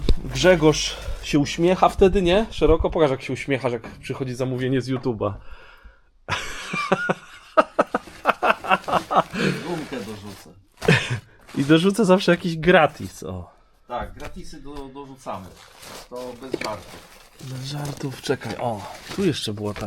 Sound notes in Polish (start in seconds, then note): 6.2 śmiech